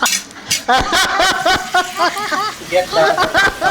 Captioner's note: both laugh out loud; laughs heartily; meat sizzling